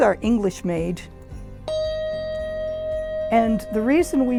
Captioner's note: handbell dinging